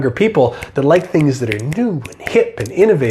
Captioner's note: snapping